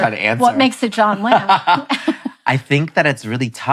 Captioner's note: laughing